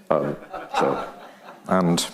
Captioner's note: audience laughing